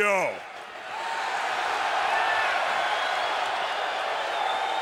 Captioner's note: crowd cheers